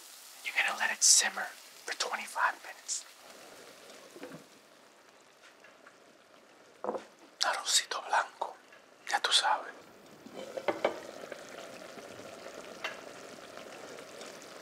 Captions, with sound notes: You're gonna let it simmer for 25 minutes (lid clatters) (speaking in foreign language) (pan simmers)